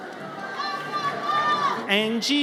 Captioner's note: audience cheers